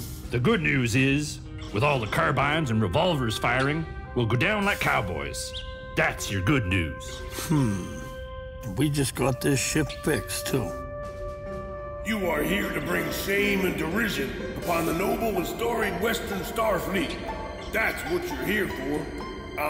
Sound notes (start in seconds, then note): 0.0 puffs cigar; 11.8 voice of Admiral Marshal Hambone